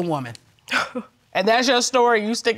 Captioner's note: scoffs